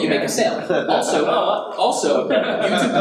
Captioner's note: audience laughs